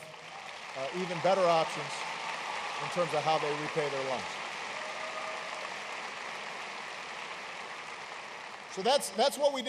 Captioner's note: applause